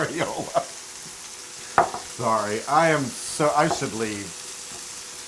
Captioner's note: laugh